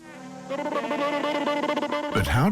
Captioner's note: cartoon character noises